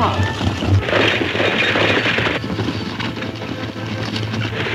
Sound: hooves thundering

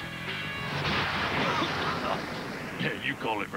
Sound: coughing

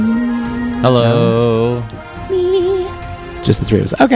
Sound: hums

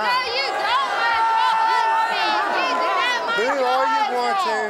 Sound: audience booing

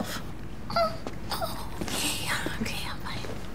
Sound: mother whimpers

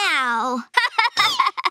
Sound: laughing

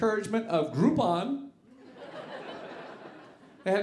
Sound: audience laughing

